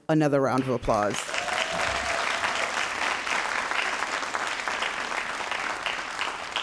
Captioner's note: all applauding and cheering